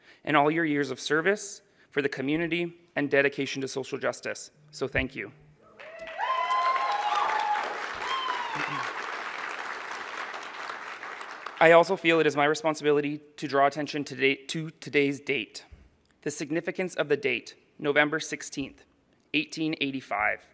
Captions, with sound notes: and all your years of service for the community and dedication to social justice. So thank you. [Applause] I also feel it is my responsibility to draw attention to today’s date. The significance of the date November 16th, 1885.